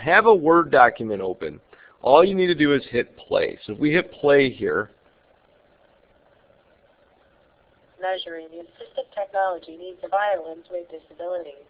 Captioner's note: computer reading